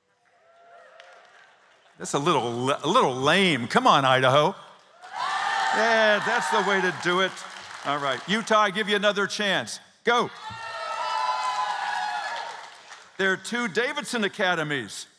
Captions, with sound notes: [ Cheers and Applause ] That's a little lame. Come on, Idaho. Yeah. That's the way to do it. All right. Utah, I give you another chance. Go! [ Cheers and Applause ] There are two Davidson Academies.